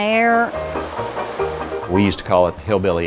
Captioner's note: water flowing